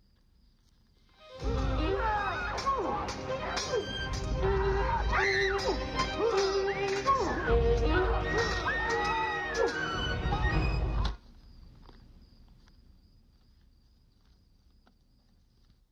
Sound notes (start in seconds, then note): 0.8 men groaning; 2.6 dramatic music; 2.6 swords clanking; 4.3 woman screaming